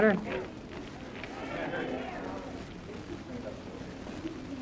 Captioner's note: crowd